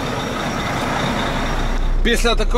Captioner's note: whoosh XD